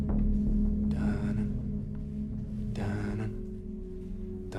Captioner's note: man hums